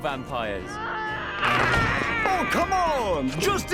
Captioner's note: screaming